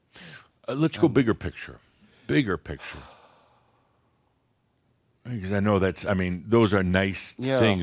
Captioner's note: sighs